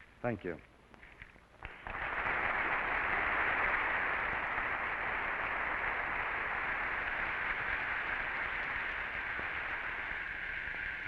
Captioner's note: applause